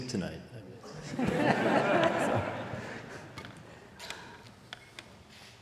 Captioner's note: audience laughing